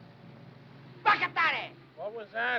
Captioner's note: speaking in foreign language